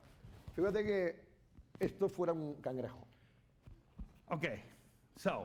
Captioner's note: speaking spanish